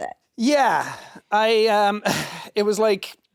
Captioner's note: sighs